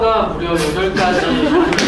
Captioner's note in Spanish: Riendo